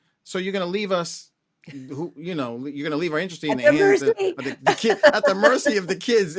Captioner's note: laughter